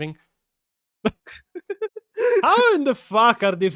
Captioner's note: Laughing in Pio